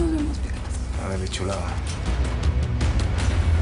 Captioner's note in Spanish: Susurra